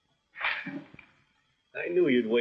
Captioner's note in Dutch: zuchtend